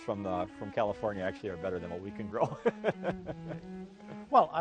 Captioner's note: laughs